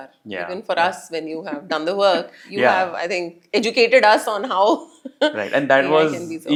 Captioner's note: laugh